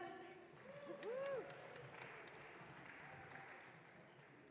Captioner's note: audience cheering